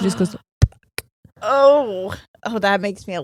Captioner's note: vocalizing